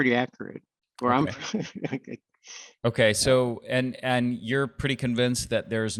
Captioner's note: chuckles